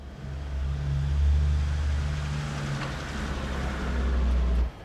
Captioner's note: machinery whirring